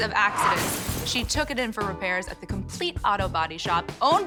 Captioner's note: crashing